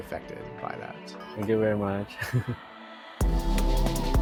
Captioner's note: chuckles; energetic electronic music continues